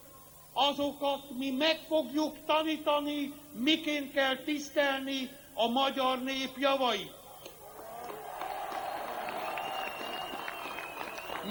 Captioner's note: applause